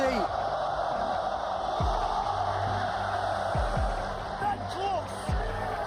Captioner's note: crowd cheering